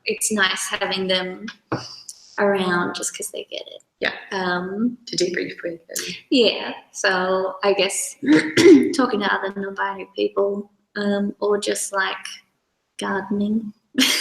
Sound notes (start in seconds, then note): 8.2 clears throat